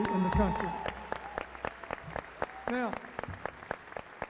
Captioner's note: cheering